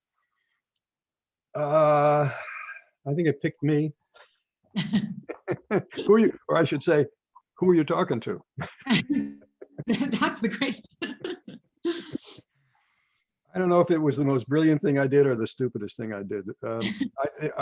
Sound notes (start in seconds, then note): 4.8 laughs